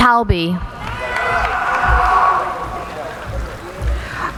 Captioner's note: cheering